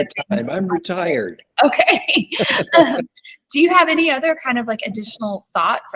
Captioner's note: laughter